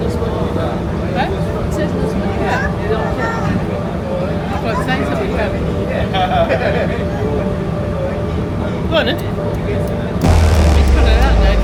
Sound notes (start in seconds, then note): 4.2 children talking